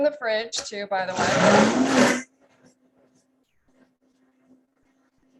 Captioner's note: the blender rumbles